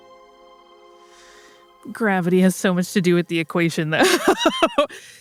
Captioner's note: laughs